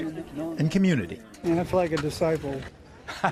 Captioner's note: laughter